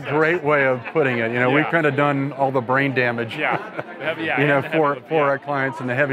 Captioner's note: chuckles